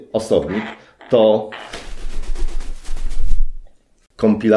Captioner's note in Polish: trzepot skrzydeł